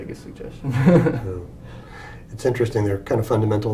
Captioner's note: laugh